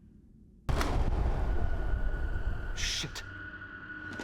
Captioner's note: frightening music; electricity whirring down